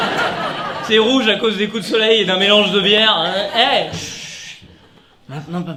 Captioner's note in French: Voix Alcoolisée